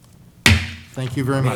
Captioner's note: gavel strikes